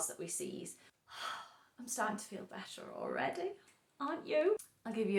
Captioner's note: sigh